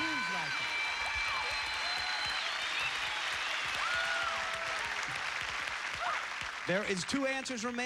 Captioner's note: cheers and applause